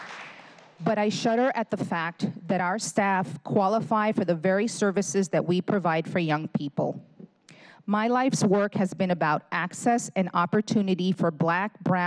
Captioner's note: applause